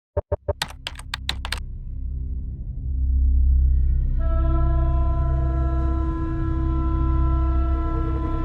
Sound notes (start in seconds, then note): 0.3 beeping; 0.4 keyboard clicking; 2.2 tense music